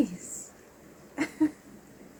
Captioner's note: laughs